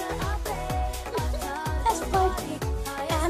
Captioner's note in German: kicher